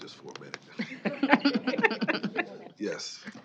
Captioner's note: chuckling